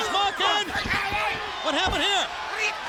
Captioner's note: referee shouting